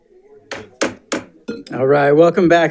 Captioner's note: gavel tapping